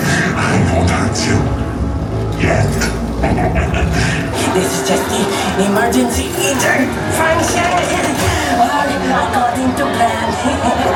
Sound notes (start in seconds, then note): 3.1 laughs evilly